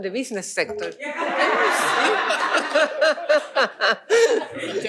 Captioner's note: laughter